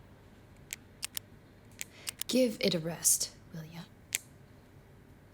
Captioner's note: pen clicking